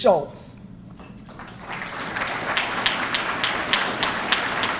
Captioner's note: audience clapping